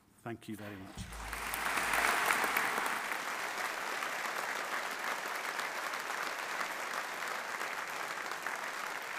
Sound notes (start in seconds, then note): 1.0 audience applauding